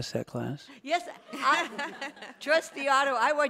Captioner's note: everyone laughs